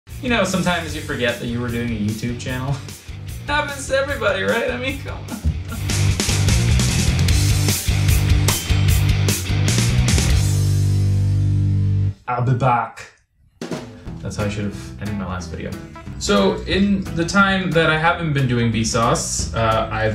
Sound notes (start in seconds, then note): 5.1 laughing; 6.0 upbeat rock music